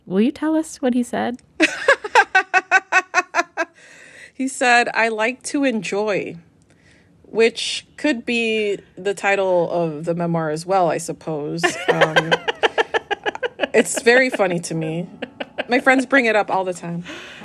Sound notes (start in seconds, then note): 1.6 laughter; 11.6 laughter